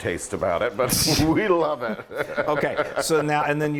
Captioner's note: laughs